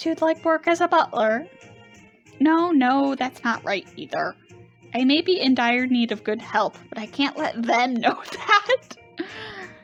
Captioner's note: laughing